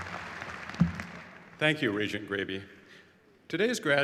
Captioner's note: applause